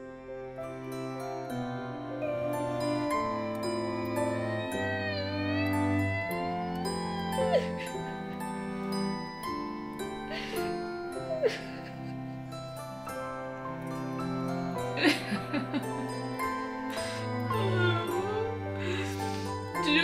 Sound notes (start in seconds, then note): 5.2 high pitched cries